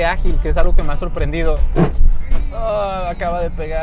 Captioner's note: car scrapes